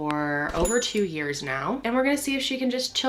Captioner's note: mouse clicking; register bell jingling